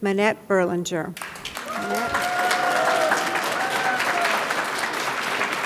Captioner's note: audience claps and hollers